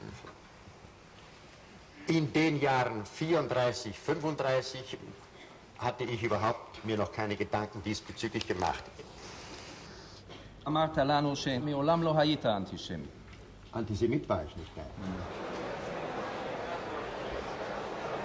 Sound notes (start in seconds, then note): 1.9 in German; 15.0 spectators murmuring